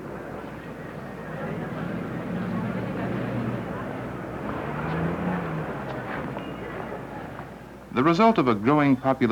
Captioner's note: city noise